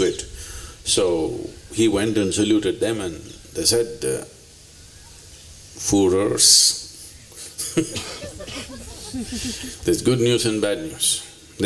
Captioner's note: laughter; 笑聲